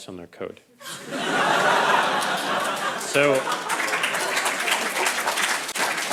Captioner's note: crowd laughing and applauding